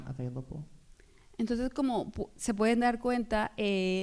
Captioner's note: speaking spanish